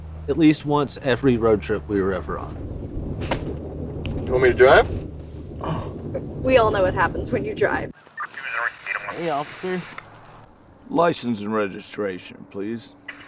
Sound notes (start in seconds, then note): 5.6 dad yawns; 8.0 CB radio crackling